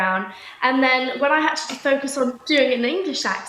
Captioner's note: American accent; English accent